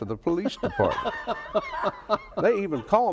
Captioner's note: laughs